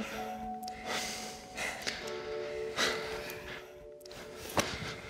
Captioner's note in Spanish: Respiración cansada